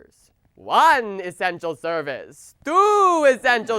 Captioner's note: imitating the count